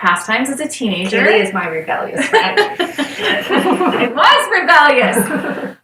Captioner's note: laughter